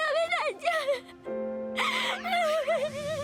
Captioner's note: Shizuka is crying